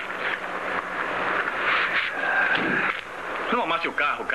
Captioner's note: thump